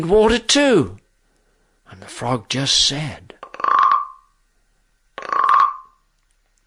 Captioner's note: frog sound effect